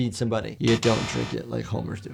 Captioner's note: buzzer buzzes; window clicks into view